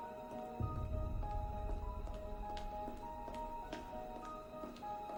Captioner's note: footsteps echo